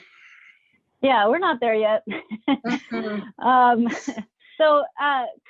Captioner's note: chuckles